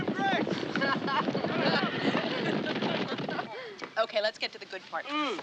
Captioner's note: laughing